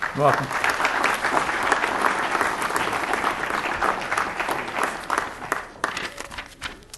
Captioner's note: applause